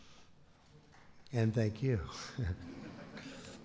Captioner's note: laughter